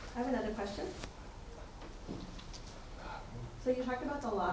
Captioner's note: attendee Through Translator